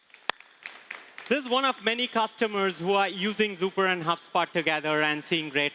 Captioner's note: applause